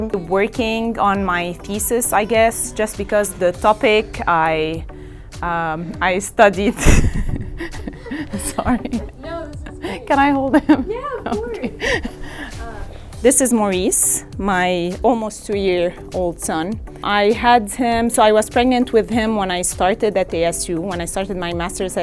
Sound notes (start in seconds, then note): 6.6 laughing